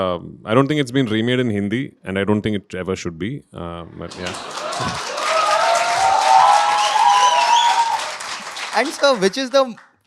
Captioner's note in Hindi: तालियां